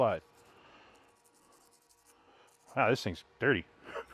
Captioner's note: brush scratches